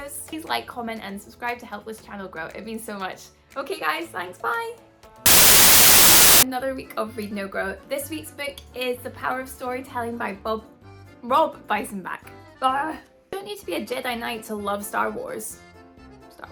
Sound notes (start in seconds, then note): 5.2 TV static plays